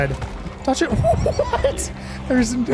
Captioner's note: laughs